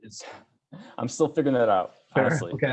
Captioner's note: sighs